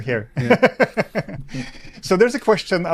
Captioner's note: laughs loudly